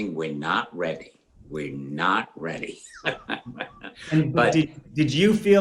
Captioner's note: laughs